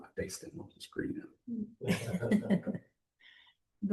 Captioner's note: laughter